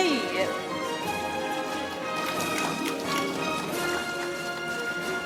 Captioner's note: audience applauding; orchestral music